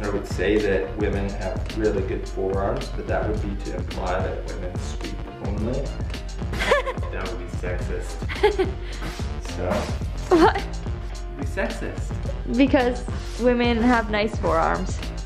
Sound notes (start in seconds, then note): 6.6 laughing